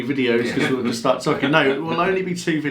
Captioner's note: laughing